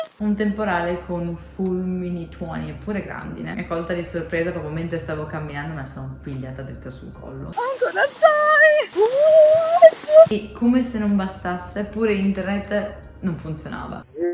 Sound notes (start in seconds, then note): 7.6 panic noises